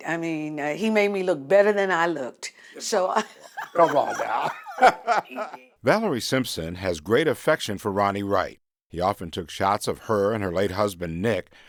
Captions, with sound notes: I mean, he made me look better than I looked, so... >> Come on now. [ Laughter ] Valerie Simpson has great affection for Ronnie Wright. He often took shots of her and her late husband, Nick,